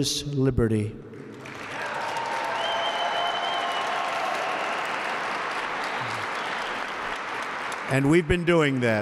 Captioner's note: applause